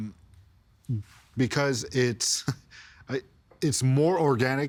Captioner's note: chuckling